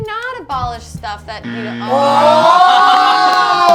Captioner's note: buzzer